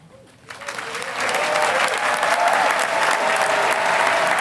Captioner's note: audience applauding